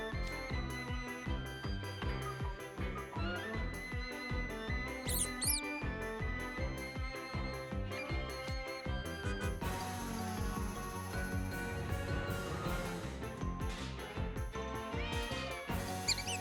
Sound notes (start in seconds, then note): 5.0 squeaks; 15.9 squeaks